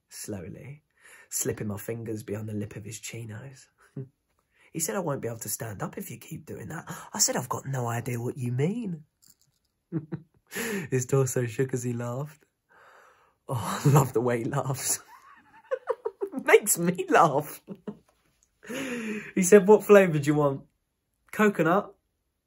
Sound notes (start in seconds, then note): 9.9 giggles; 15.0 laughs